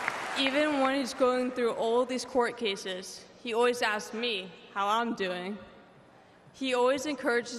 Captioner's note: applause